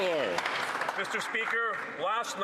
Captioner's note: some Applause